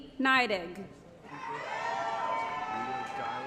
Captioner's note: applause & Cheering